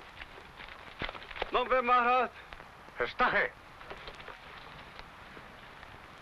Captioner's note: speaking foreign language